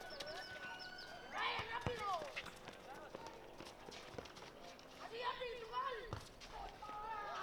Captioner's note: children in background